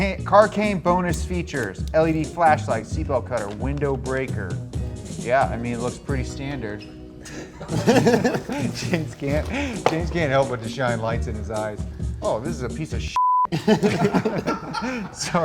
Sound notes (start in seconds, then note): 7.2 both laugh; 13.1 beep; 13.5 laughs